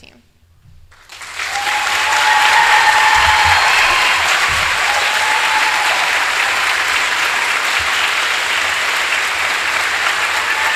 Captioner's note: applause